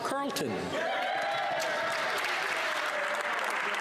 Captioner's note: speaking French